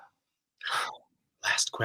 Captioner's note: he gasps